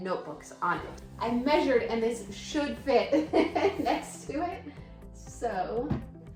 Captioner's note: laughing